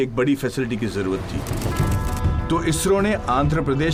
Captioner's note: clicking